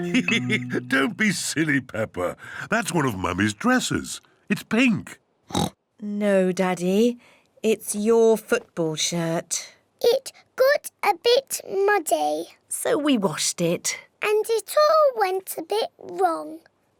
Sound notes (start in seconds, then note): 0.0 laughs; 5.5 oinks